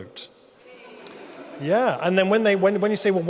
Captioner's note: audience murmuring